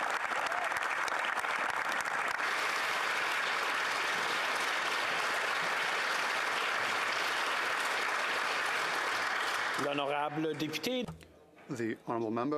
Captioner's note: applause